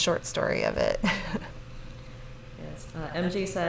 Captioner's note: laughs